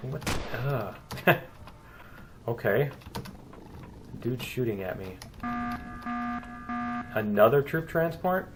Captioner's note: turret firing; laughs; klaxon